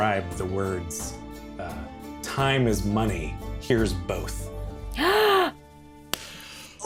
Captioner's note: gasps